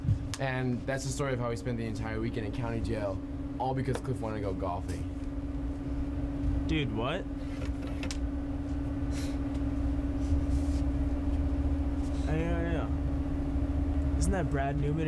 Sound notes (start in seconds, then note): none